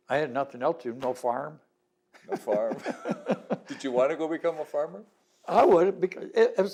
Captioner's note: laughter